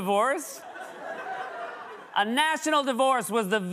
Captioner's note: laughter